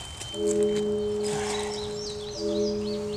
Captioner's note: sighs